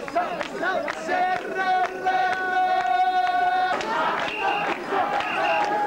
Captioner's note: applause